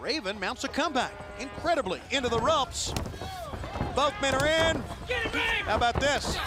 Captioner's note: crowd chatter